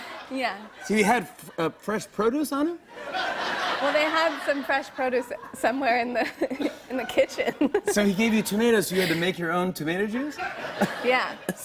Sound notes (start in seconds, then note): 0.0 laughter; 2.9 laughter